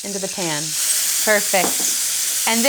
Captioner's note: sizzling